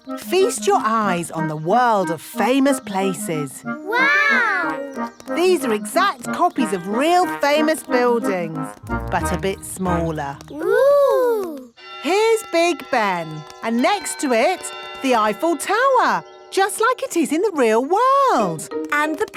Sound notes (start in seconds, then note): 11.8 clock chimes